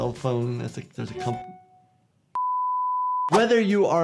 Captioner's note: beeper beeping